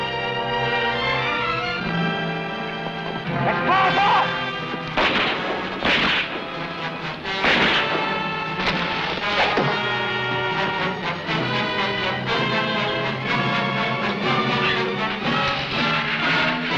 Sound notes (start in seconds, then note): 3.8 gunshots blasting; 9.2 arrow whooshing; 14.0 tense music